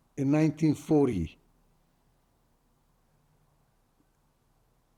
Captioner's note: pauses 6 seconds